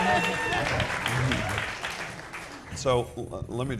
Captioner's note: people cheering